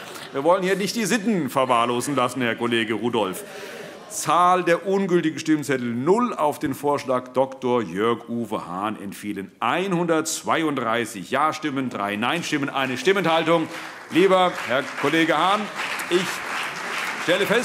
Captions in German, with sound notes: - Wir wollen hier nicht die Sitten verwahrlosen lassen, Herr Kollege Rudolph. - Zahl der ungültigen Stimmzettel: 0. Auf den Vorschlag Dr. Jörg-Uwe Hahn entfielen 132 Jastimmen, drei Neinstimmen und eine Stimmenthaltung. [Allgemeiner Beifall] Lieber Herr Kollege Hahn, ich stelle fest: